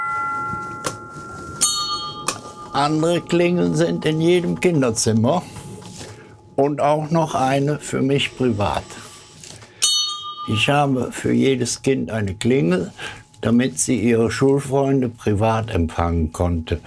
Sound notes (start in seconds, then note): 1.5 dull ringing